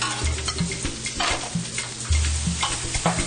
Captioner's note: chicken sizzles